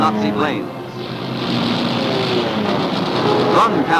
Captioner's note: guns firing